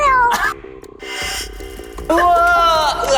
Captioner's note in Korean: 대충 맞는 효과음